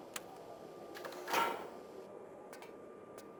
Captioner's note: door sound ♫